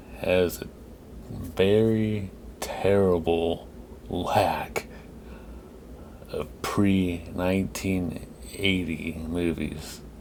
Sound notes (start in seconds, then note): none